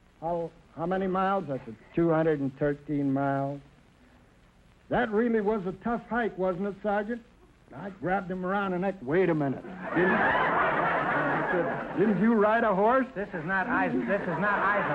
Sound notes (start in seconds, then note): 9.6 audience laughter